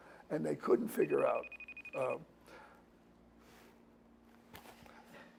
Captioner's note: cell phone ringing